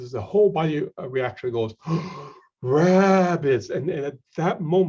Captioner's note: deep breath